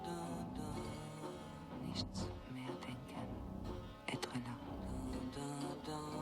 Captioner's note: speaking french